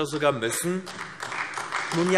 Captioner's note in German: Beifall AfD